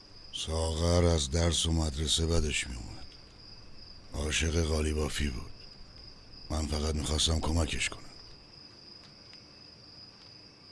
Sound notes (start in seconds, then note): none